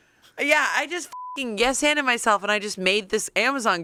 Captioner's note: beep